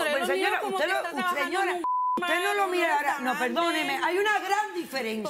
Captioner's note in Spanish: Bip